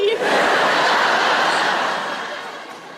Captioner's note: laughter